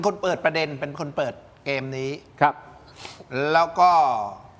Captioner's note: takes a deep breath